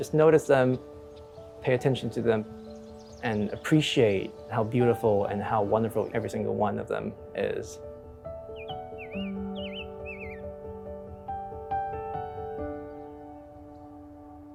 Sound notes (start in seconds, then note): 8.3 bird chirps